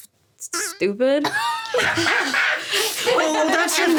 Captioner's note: laughing